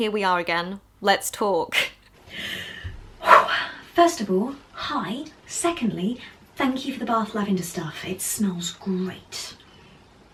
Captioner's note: breathes out